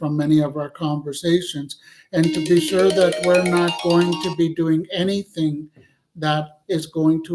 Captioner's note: cell phone rings